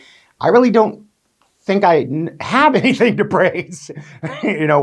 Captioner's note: chuckles